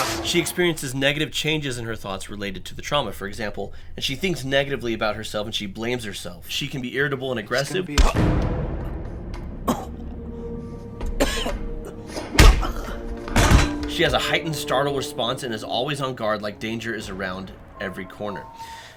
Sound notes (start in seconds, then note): 10.9 coughs